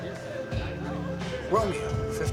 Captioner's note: none